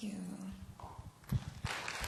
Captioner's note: applause